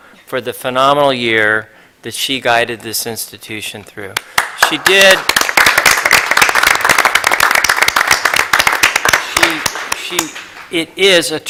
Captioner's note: applause